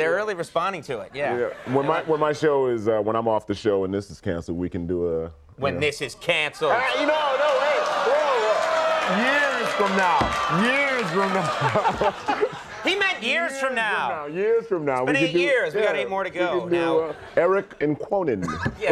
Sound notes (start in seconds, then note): 6.7 crowd laughing